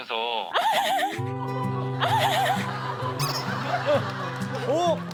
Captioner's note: giggling